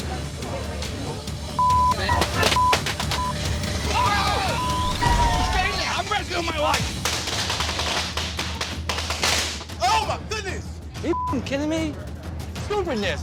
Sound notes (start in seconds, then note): 0.3 suspenseful music; 1.8 firecracker crackling; 7.1 firecracker crackling